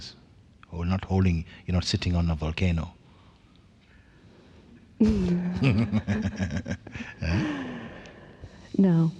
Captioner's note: laughter